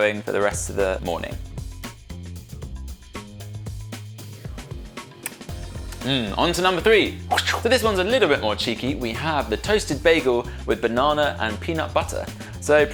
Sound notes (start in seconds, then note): 7.3 makes whooshing noise